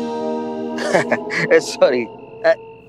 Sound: chuckles

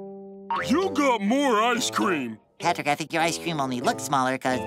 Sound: groaning

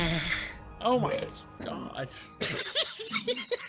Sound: moans; normal burps; laughs

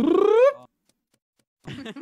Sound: burps

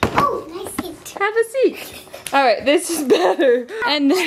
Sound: laughs

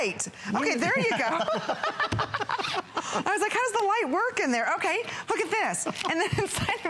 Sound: laughter

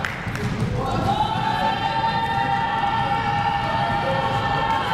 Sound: crowd making noise

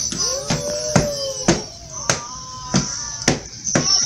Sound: ooh ahhh

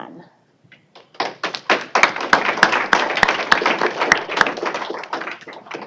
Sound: applause

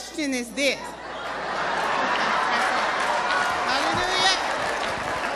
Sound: crowd chattering

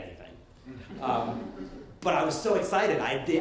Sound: light laughter

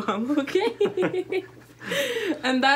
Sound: laughter

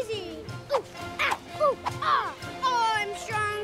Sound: grunting

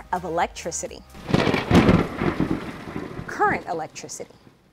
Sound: thunder rumbling

